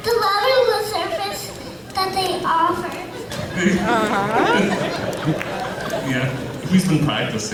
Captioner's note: laughs